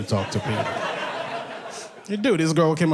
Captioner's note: audience laughs